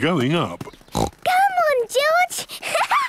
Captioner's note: snorts; laughs